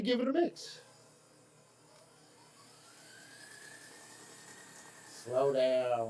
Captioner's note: mixer whirring